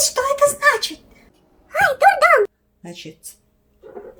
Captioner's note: onion screaming